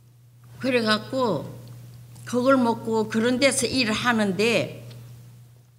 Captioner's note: speaking foreign language